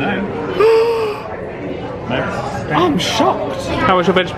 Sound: gasps

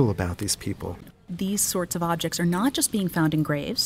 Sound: voiceover

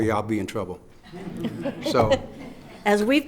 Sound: laughing

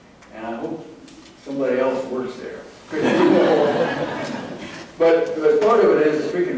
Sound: laughter

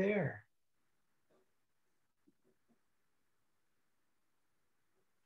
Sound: silence

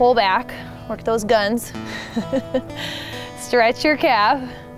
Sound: laughs

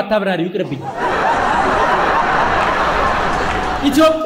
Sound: laughter

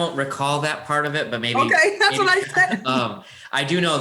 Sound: laughs

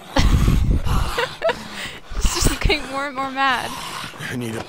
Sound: laughs

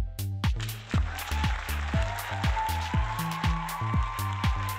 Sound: crowd cheering

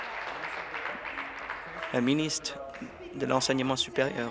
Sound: applause

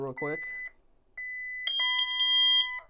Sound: keypad beeps

